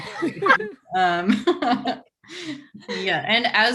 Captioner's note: group laughing